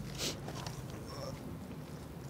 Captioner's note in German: Leises Ächzen